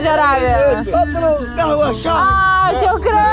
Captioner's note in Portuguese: em árabe